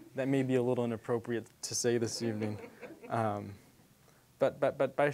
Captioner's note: audience chuckling